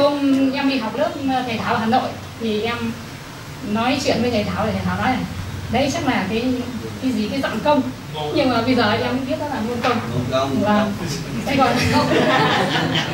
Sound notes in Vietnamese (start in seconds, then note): 11.6 cười